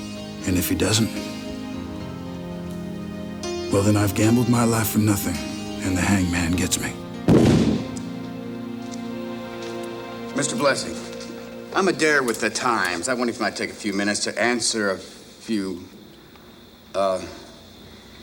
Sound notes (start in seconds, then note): 7.3 camera flash pops